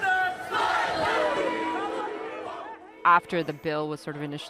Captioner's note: crowd chanting continues